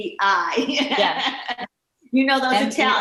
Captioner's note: laughing